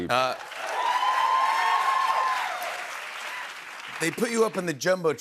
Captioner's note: cheers and applause